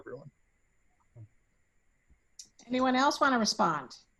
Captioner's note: faintly speaking